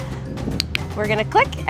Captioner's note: click